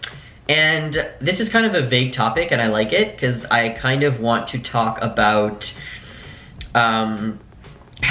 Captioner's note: inhale